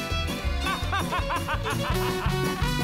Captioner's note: maniacal laugh